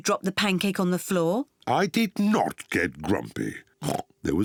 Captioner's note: oinks